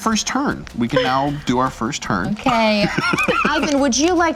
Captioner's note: laughs